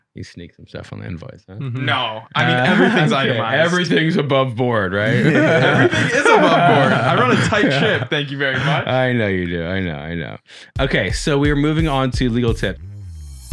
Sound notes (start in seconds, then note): 2.3 laughing; 5.0 group laughing; 10.8 upbeat music